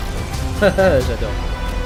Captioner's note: laugh